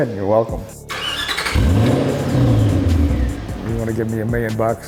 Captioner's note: engine revving